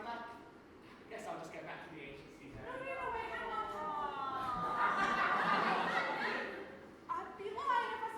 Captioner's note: audience awws